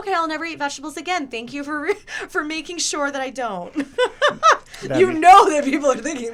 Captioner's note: laughs